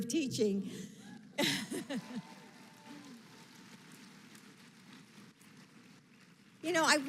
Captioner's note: laughs; applause